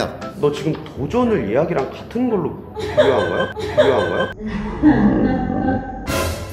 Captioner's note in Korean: 또 전방에 힘찬 웃음 발사